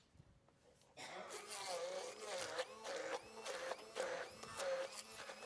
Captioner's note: blender whirring